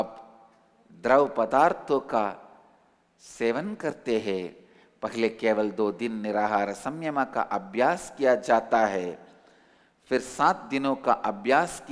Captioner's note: hindi